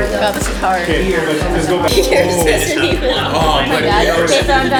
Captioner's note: happy chatter